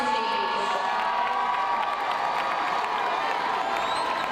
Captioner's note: crowd cheers